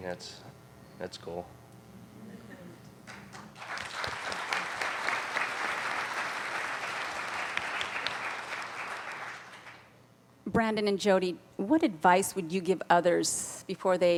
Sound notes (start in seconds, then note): 3.0 applauding